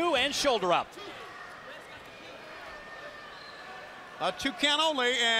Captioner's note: crowd chatter